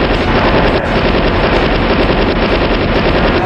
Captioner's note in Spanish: sonido de ametralladora